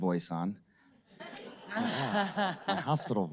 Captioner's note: audience laughter